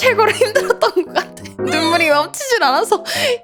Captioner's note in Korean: 웃음